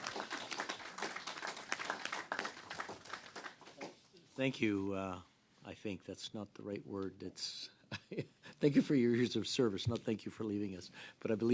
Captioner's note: applause